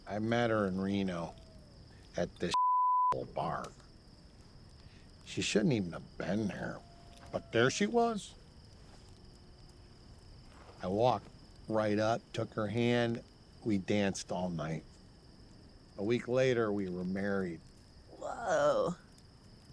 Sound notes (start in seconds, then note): none